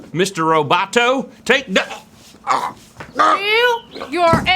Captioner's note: wheezing